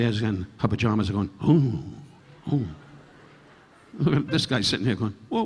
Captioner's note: Don groaning; audience laughing